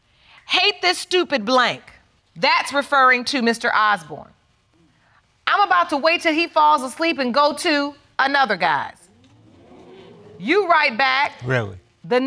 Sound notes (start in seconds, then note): 9.0 audience gasps